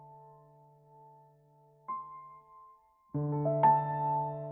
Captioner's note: silence